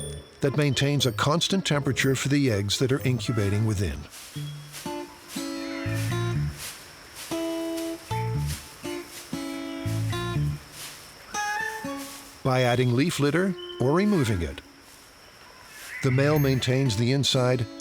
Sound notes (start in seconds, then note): 4.4 playful guitar music; 9.0 leaves rustling